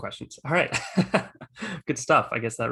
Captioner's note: laughs